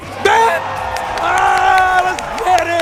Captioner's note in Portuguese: platéia vibrando